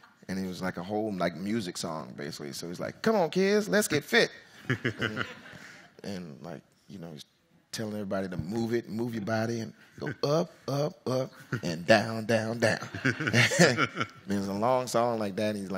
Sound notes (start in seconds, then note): 4.6 audience chuckles; 12.7 audience laughs